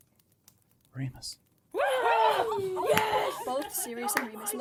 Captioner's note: cheering, clapping, excited noise